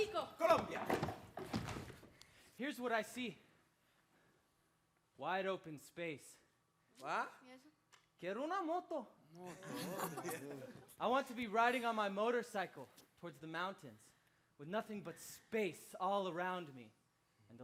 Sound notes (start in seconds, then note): 8.2 speaking Spanish; 9.5 performers chuckles